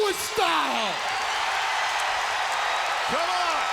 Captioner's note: crowd cheers